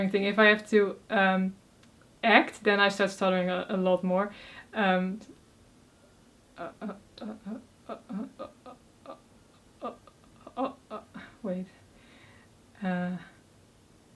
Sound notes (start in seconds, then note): none